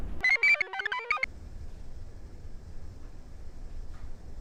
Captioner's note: computer chirps